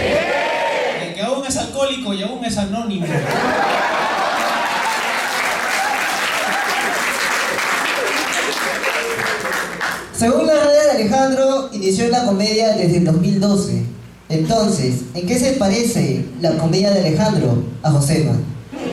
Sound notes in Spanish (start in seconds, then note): 3.0 risas; 5.8 aplausos